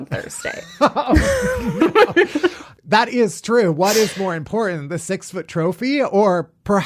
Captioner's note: laughs